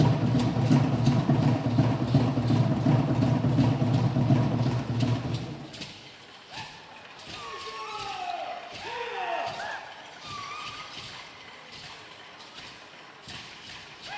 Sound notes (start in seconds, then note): 6.4 entertainers chanting